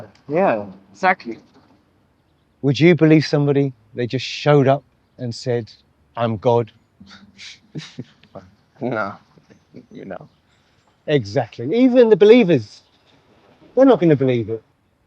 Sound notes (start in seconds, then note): 7.6 both chuckle